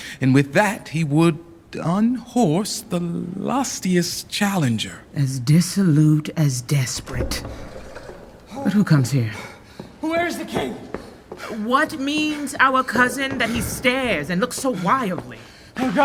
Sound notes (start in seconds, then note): 6.8 door opening; 10.7 footsteps; 10.8 breathless